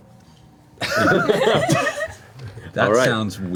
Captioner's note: all laugh